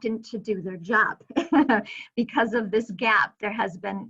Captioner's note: chuckling